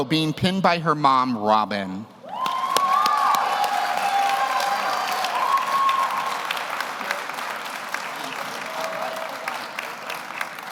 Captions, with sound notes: being pinned by her mom, Robin. (audience cheers) (audience applauds)